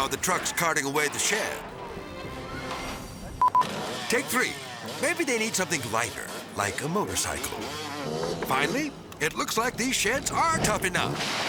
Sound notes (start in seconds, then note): 3.3 camera beeping; 7.9 motorcycle whizzing